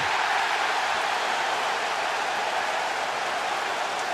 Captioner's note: cheering